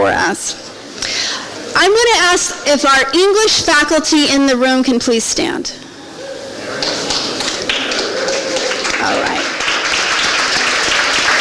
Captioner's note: applause